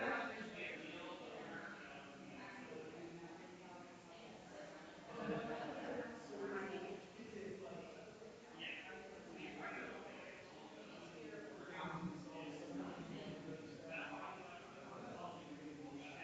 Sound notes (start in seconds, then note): 5.6 people chattering distantly continues